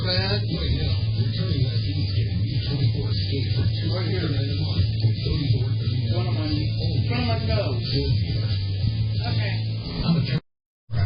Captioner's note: TV plays in background